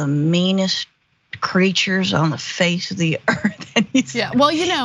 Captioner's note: laugh